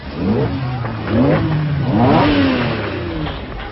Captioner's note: cars revving